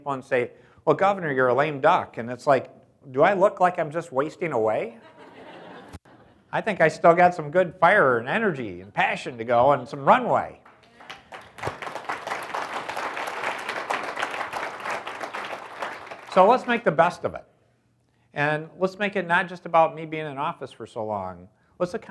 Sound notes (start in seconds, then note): 5.0 audience laughs; 10.5 audience applauds